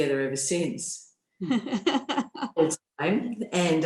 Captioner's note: laughter